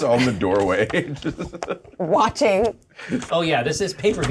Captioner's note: laughter